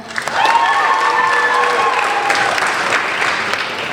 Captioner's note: applauding